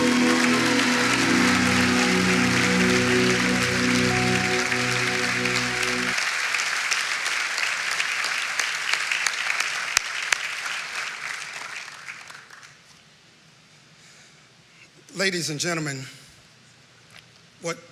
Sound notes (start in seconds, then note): 1.8 applause